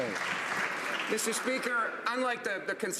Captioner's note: some Applause